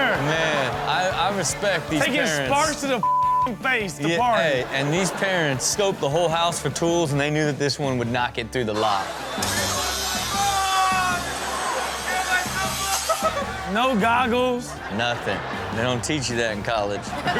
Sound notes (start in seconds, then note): 4.0 audience laughing; 9.4 cutter whirring; 12.3 cutter whirring